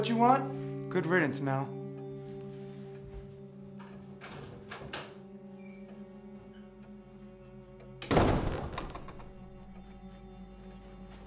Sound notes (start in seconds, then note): 3.7 door opens; 8.0 door closes